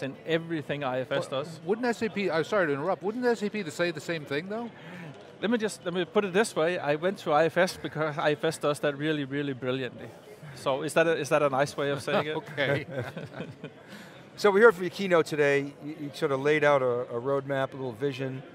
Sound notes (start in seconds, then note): 12.2 laughing